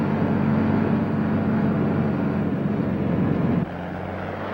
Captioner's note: truck engine whirring; engine whirring